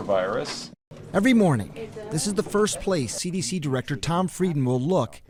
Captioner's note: voice-over